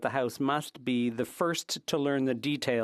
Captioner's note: speaking French